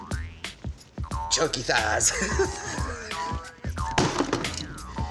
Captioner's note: laughing